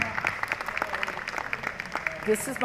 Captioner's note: applause